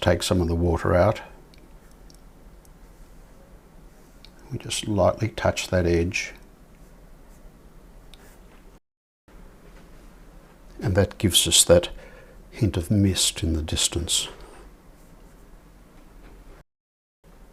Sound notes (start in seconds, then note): 6.4 silence